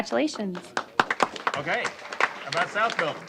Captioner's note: applause